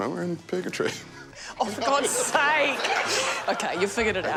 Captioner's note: laughs; laughter